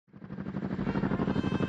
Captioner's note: helicopter sound